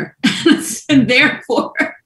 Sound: laughs

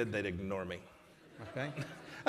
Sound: laughter

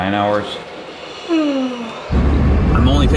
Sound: woman yawns

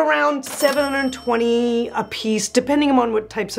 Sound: bell rings

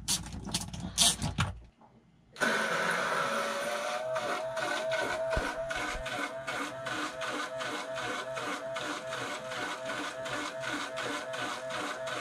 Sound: pumping sound

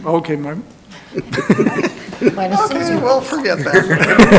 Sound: people laughing

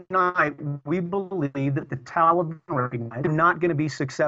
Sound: audio corruption

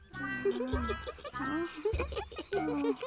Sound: both giggling

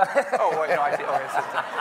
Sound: everyone laughing

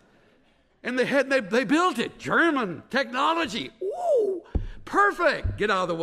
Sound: taps pulpit

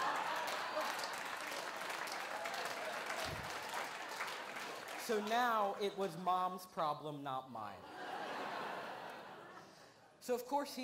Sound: laughter

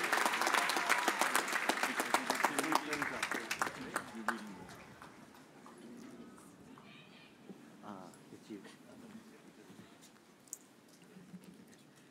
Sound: cheers and applause

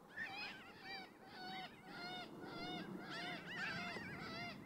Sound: birds chirping

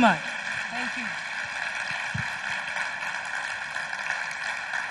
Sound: audience applauds

